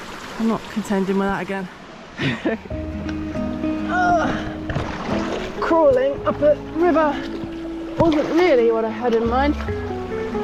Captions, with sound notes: I'm not contending with that again *chuckle* urrgh! crawling up a river wasn't really what I had in mind